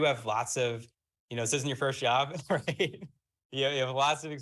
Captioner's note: laughs